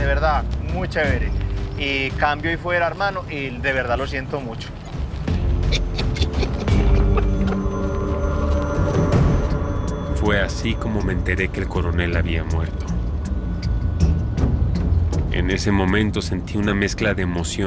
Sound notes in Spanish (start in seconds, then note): 5.4 Ríe